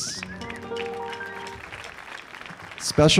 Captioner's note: audience applauding